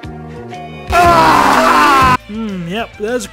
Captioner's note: screaming